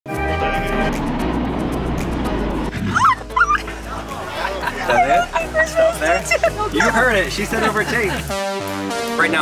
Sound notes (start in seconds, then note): 0.1 brass band playing; 0.8 jet engines whooshing; 2.8 squeals